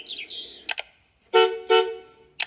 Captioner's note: birds chirps; horn honks